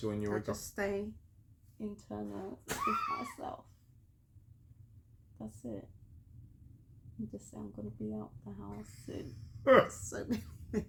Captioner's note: laughter